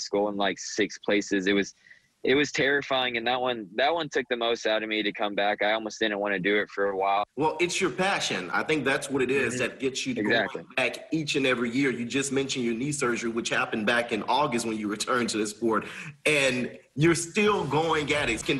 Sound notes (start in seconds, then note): 12.6 talking fast